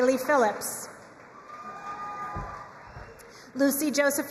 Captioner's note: crowd cheering and applauding